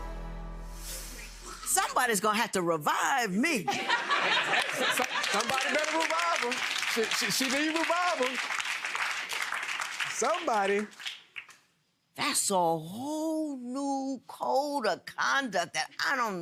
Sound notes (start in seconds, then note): 3.6 laughter; 8.3 applause